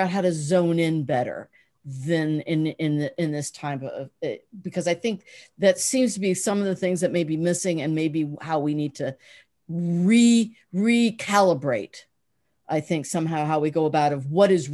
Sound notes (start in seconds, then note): none